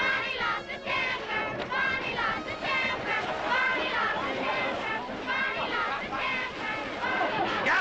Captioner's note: chanting; chanting continues